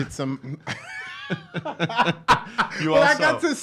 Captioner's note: laughs